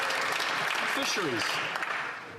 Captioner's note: applause